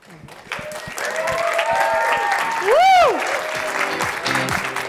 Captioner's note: audience applause